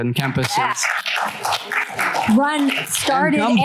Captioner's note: applause